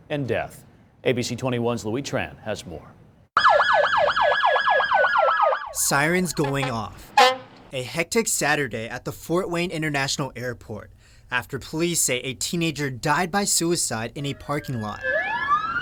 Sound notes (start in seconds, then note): 6.2 police sirens at airport; 7.0 firetruck honking; 14.3 police car driving and sirens